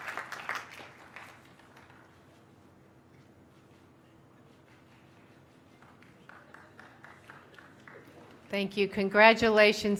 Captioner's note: applause